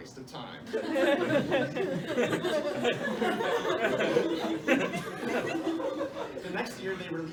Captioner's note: laughter